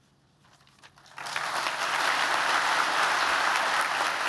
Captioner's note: applause